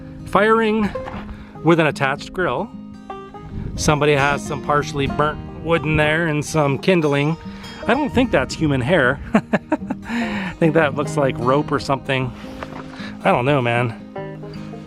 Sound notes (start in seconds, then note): 9.2 laughter